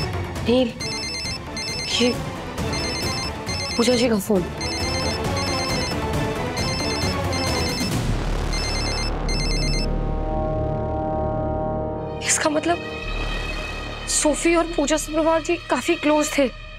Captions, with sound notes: Neel. This is Pooja's phone. (phone ringing) That means Sophie and Pooja Sabarwal were quite close to each other.